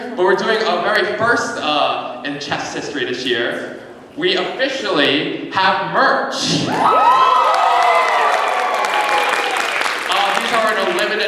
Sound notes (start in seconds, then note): 6.7 cheering